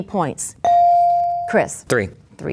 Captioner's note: bell dings